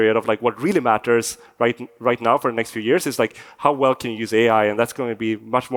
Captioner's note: none